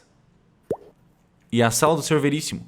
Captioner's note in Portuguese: sons de gotejo